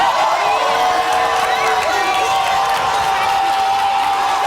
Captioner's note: audience yelling